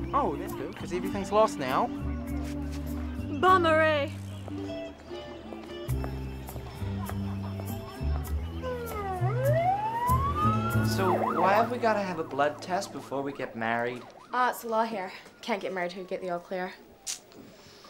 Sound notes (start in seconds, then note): 9.8 sirens